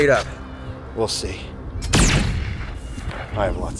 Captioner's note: fires laser